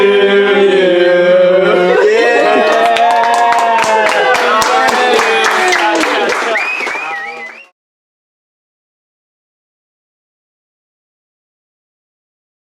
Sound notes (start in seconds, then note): 3.8 clapping, whistling